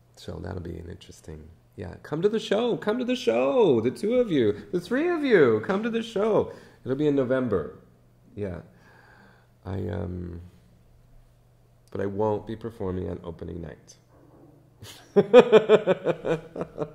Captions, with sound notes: So that will be an interesting, yeah. Come to the show! Come to the show! The two of you. The three of you, come to the show. It'll be in November. But I won't be performing on opening night. (laughs)